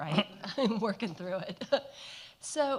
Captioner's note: laughs